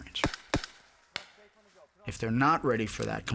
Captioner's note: gun shots firing